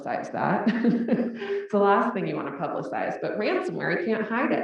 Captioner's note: laugh